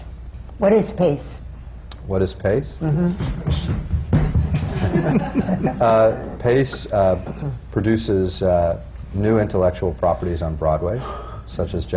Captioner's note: laughter